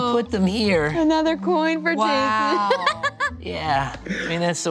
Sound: laughs

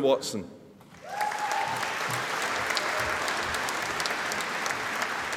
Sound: audience applauding

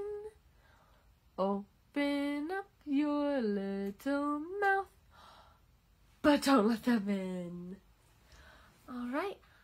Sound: gasp!

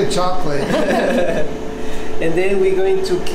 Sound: laughs

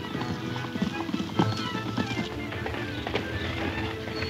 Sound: horses hoof beats; urgent music

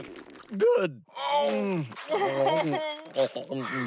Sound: groaning

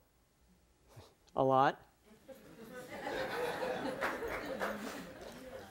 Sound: audience laughs

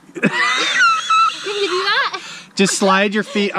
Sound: laughing

